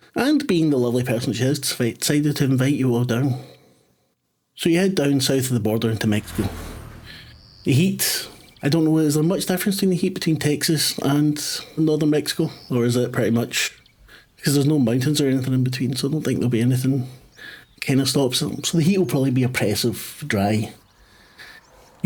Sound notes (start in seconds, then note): none